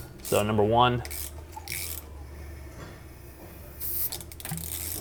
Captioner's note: ratchet clicking